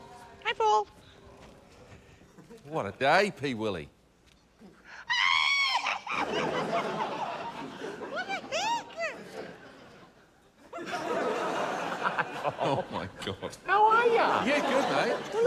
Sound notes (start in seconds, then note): 5.0 screams excitedly; 5.8 laughter